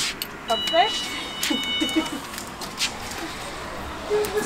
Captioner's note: doorbell is ringing